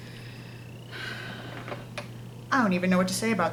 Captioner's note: sigh